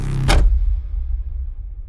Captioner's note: bang